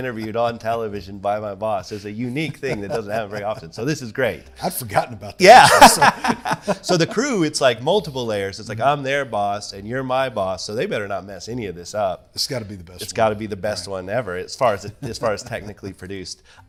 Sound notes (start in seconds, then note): 5.5 laughs